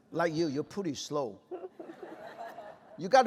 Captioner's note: laughter